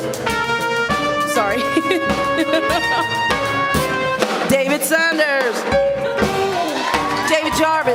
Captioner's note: laughing